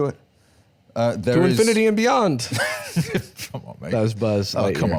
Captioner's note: laughs